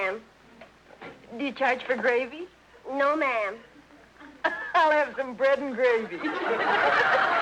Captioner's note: laughs